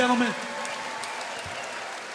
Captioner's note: audience cheering